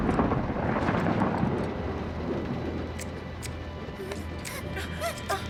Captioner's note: scissors clipping; screaming